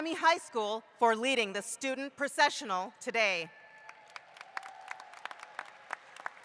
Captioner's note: applause